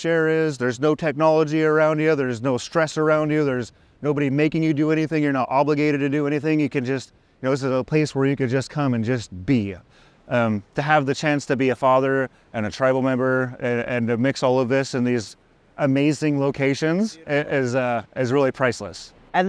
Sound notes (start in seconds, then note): none